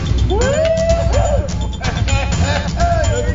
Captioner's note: hooting